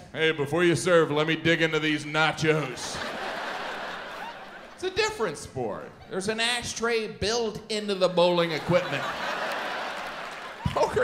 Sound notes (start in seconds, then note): 2.4 audience laughs; 8.4 audience laughs and claps